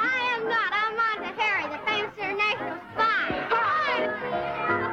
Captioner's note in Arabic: صراخ الأطفال